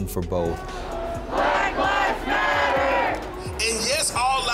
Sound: crowd

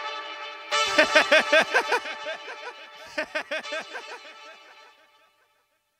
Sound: laughs

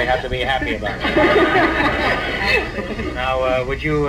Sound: audience laughs

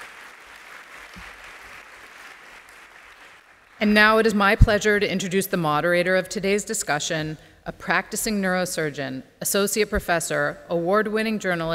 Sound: applause

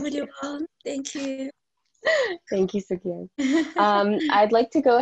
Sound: laughs

